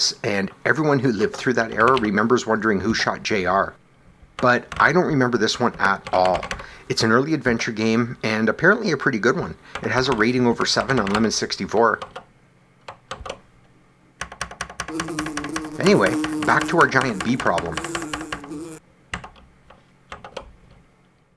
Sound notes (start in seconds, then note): 14.9 buzzing